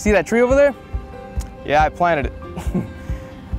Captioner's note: chuckles